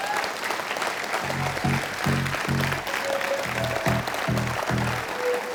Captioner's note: applause